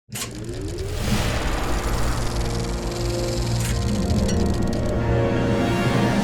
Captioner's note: soft dramatic music; projector whirring